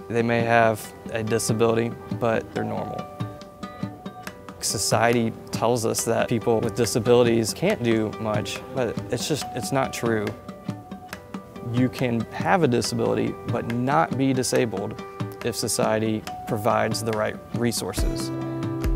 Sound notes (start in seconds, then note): none